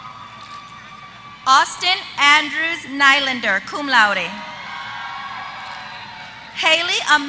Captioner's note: applause